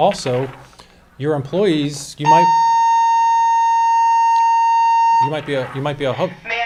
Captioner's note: fire alarm